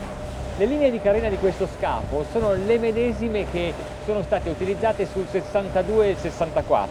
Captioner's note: man speaks in foreign language